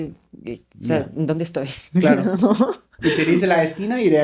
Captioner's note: laughs